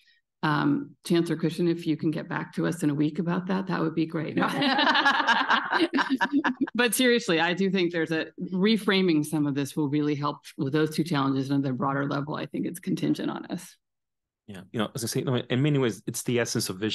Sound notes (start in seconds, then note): 7.8 laughter